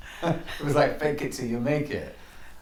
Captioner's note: laughs